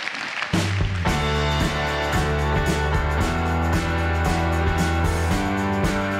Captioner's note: applause